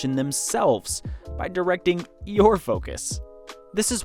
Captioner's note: none